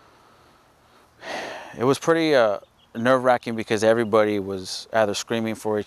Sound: sighs

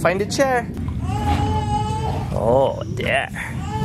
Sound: kid cries in the background

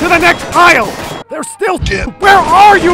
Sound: earrape

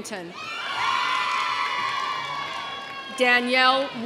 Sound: audience cheering

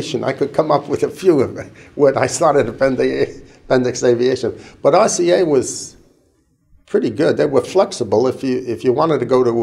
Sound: chuckle

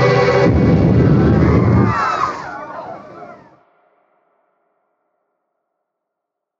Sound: flames roaring; Munchkins screaming

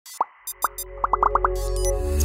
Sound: techno music; icons popping

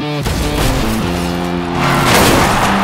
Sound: cars driving and colliding

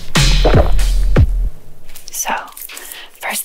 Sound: swallowing

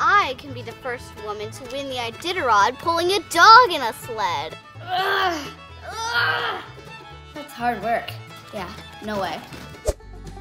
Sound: straining

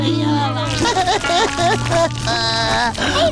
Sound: chattering; crying

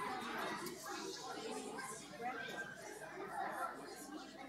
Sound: audience chattering

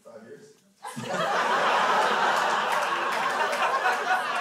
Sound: crowd laughs

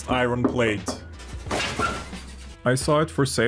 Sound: metal creaking

